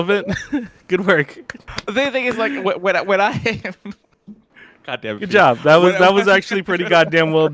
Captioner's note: laughs